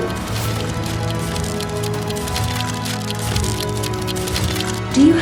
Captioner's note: steampunk robot walking